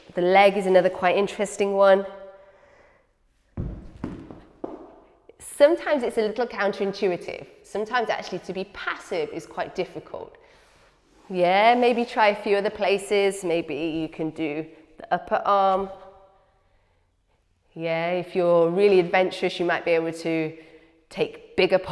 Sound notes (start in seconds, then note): 3.5 thuds